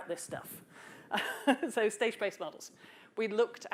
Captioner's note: laughs